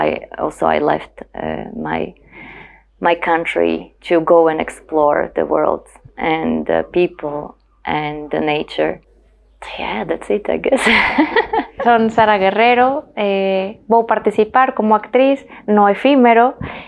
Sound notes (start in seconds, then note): 10.7 laughs